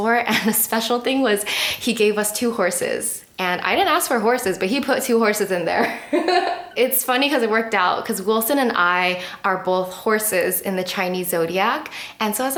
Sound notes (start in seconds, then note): 6.1 laughing